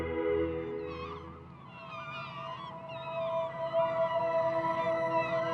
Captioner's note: seagulls cawing